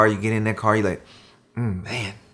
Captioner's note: inhaling